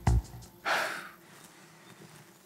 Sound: Garmen sighs

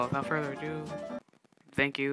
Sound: music stops

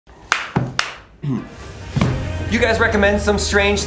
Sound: clapping

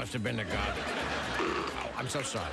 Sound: burp

